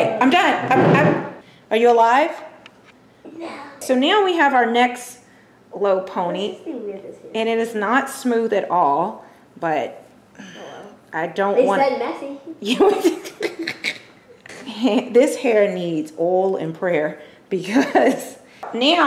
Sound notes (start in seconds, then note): 12.7 laughter